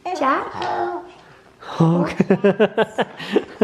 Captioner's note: laughs